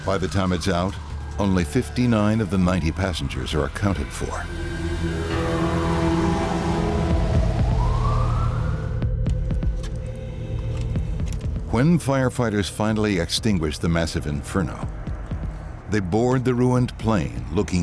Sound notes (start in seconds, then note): 4.9 sinister music; 7.8 sirens